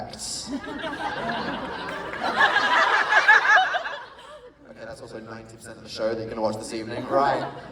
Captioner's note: laughter